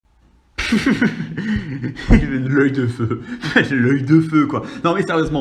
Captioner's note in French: rires